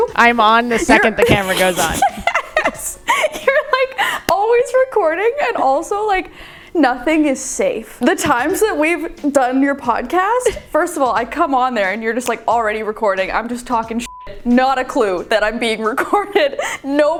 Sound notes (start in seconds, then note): 0.8 laughing; 14.0 beep